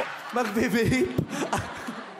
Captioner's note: laughing